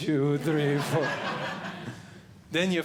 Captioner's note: audience Laughing